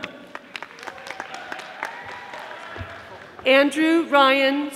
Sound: audience applauding

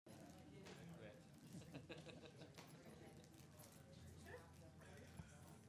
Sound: people laughing

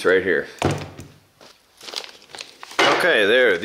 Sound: thud sound

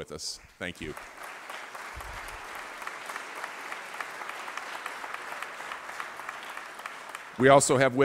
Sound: applause

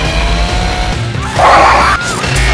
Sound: screaming

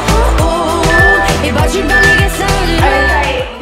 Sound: workout timer beeping

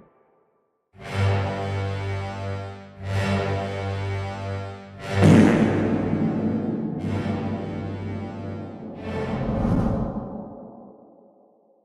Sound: fart with Reverb.mp3

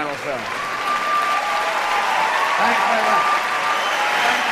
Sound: cheers & applause

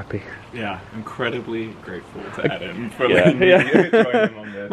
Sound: laughs

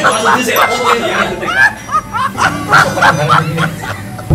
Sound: laughter

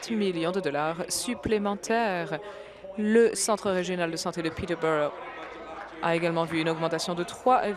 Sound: applause

